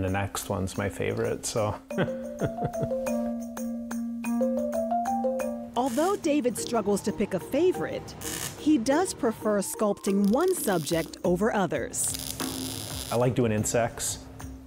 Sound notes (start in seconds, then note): 2.3 laughing softly; 3.5 gentle, rhythmic music